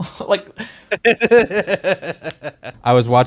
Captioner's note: laughs